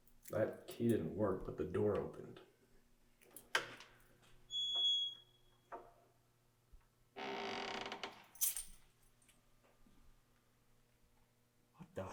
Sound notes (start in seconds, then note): 3.7 door clicks; 3.7 door creaking; 8.3 keys clang